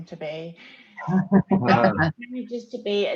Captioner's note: hearty laughing